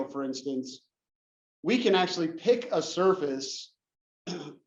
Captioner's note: cough